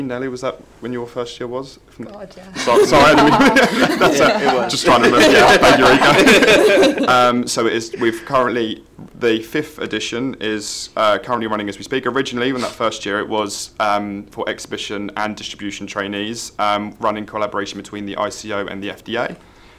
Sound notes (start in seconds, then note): 2.5 laughs; 2.6 all laugh